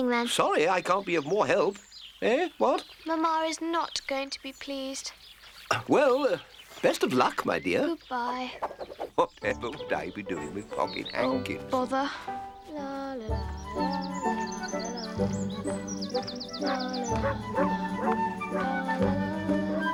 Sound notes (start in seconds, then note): 13.3 humming